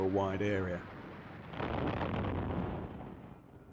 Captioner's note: sound of explosion